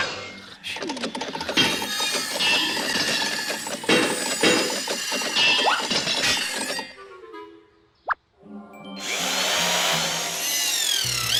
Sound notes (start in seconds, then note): 2.3 saw whirring, metal clattering; 9.0 drill whirring